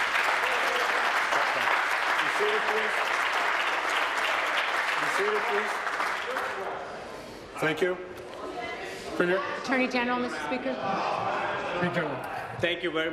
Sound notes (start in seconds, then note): 3.3 applause